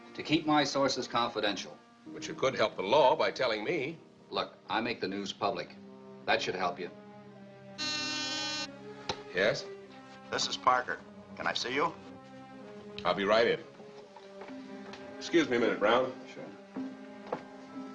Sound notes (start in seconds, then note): 7.8 buzzer sounds